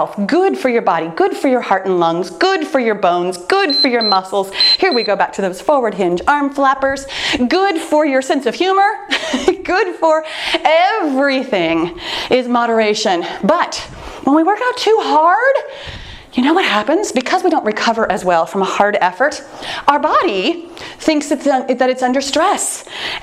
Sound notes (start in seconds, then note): 4.5 timer beeps; 9.1 laughs